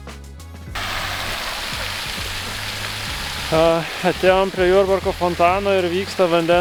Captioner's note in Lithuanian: Plojimai